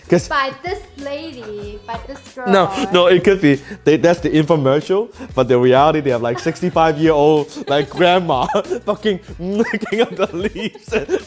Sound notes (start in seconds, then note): 2.4 laughs; 9.4 laughter